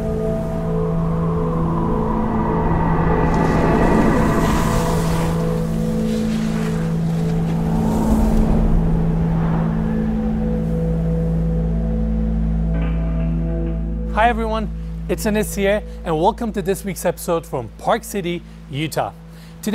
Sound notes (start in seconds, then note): 1.3 wind blowing; 5.3 skiers whooshing